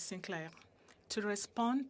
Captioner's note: speaking in French